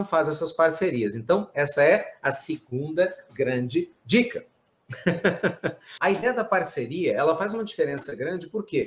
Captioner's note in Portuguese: risos